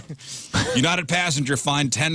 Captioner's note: laugh